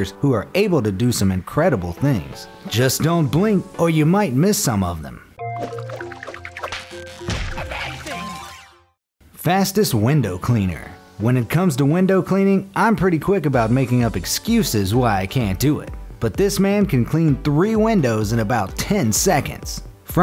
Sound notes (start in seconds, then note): 5.4 gentle music; 5.6 splashing sounds